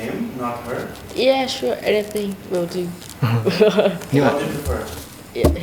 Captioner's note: laughs